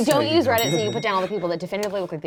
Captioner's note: bell clicking sound